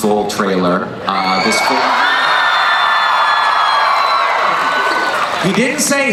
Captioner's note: crowd screaming and cheering